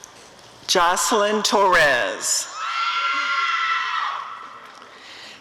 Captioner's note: audience cheering